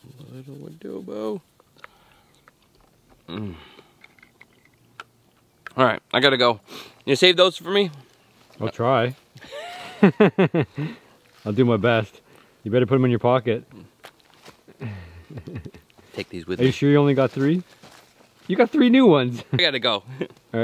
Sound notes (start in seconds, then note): 9.4 both laughing